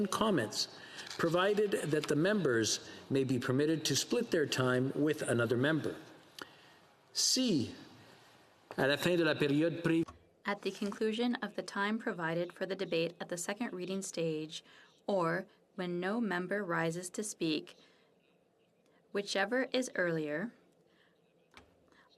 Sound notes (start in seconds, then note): 13.1 speaking in french